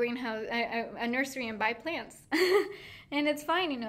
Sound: laughing

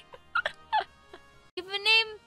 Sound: laughing

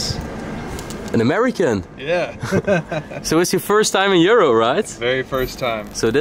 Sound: laughing

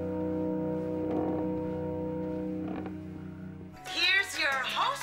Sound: stairs creaking

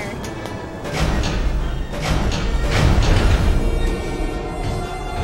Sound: connectors releasing

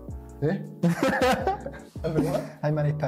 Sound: laughs

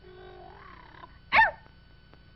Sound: bark

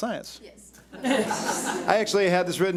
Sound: audience laughs

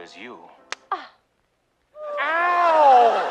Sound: slap

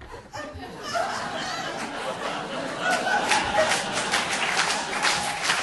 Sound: audience laughing

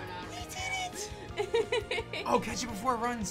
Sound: laughs

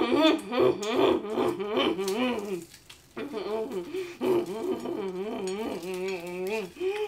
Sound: disgusting heavy nose breathing; excited eating noises for way too long

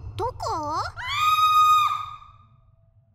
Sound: Barbara Screams!

